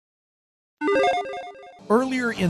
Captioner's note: logo chiming